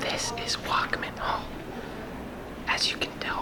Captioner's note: whispering